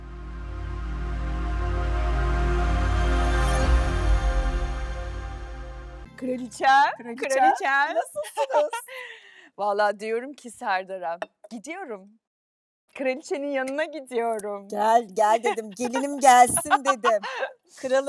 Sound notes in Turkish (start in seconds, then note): 7.3 kahkaha